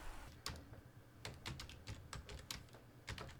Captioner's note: heavy typing